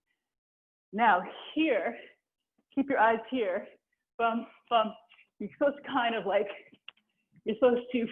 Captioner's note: vocalizing a rhythm